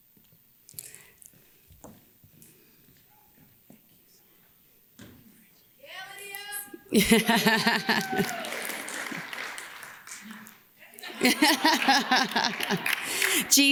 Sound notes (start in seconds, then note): 6.8 laughs; 6.9 audience cheers; 11.0 laughs